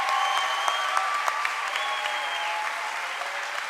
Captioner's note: cheering and applause